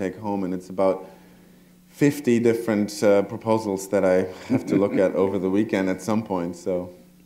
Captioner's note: chuckle